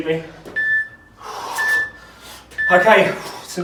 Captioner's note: beeping